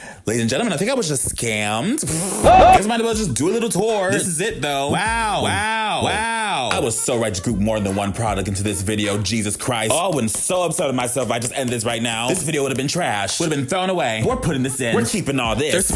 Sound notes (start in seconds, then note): 1.8 blows raspberry; 2.1 man yells echoing